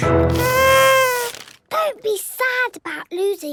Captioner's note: horn blowing